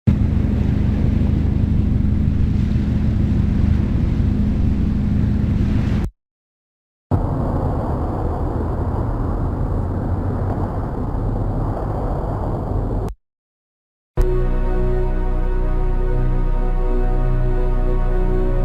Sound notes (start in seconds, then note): 0.1 boat engine gently rumbling; 7.0 white noise whooshing; 14.2 gentle atmospheric music playing